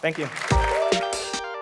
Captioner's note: applause; electronic music playing